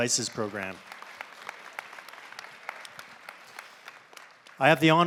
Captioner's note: applause